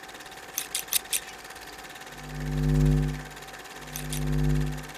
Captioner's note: film projector sounds; scissors snipping